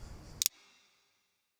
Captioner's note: click